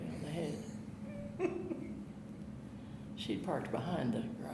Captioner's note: chuckling